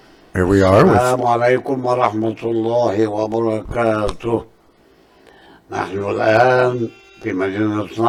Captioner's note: in Arabic